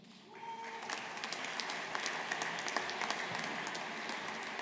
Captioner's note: audience applauding